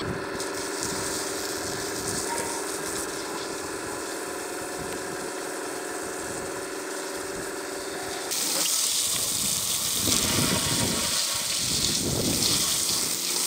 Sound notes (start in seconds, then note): 0.5 water running; 8.4 hose rapidly spraying